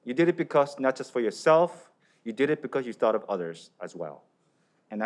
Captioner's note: none